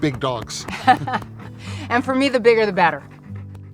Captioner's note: laughs